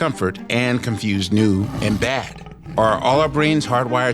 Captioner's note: tiger growls